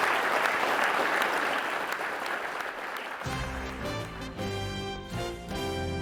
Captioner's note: applause